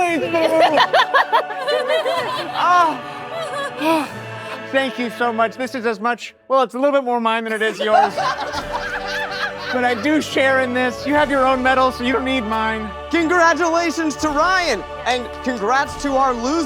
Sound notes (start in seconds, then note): 0.0 all laughing; 0.2 panting; 7.5 all laughing